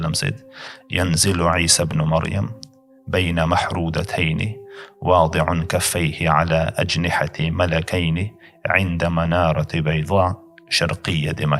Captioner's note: Arabic